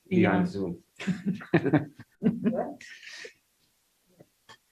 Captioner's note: laughter